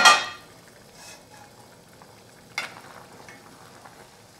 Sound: bubbling sound

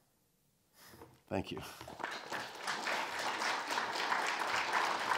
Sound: audience applauding

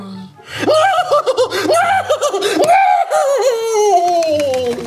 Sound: hysterically laughing

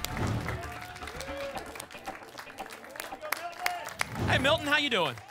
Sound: applause and cheering cont

